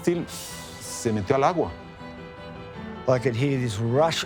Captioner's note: in English